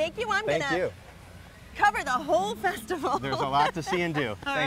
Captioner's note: laughs